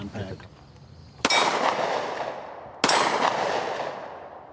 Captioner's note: gun banging